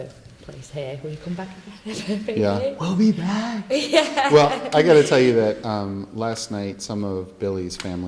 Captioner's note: laughs